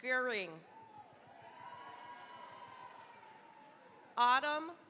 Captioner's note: cheering, applause